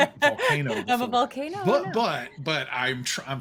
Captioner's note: laughs